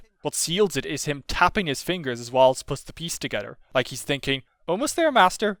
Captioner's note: none